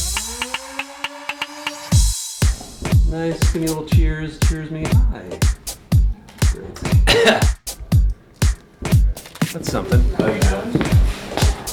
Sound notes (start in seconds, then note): 0.1 upbeat music; 5.4 coughs